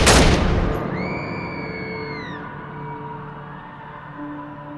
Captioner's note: gunshots; screams